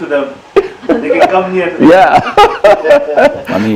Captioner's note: loud laughter